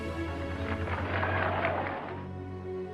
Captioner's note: dramatic spirited music; audience applauds; dramatic somber music